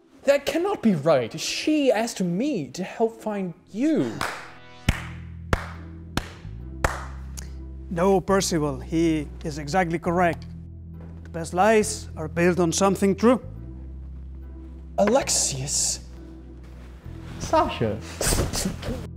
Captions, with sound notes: That cannot be right. She asked me to help find you. [Slow claps] No, Percival, he is exactly correct. The best lies are based on something true, Alexius. Sasha!